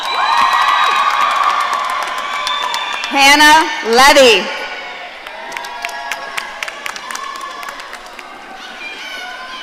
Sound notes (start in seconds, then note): 0.0 audience cheering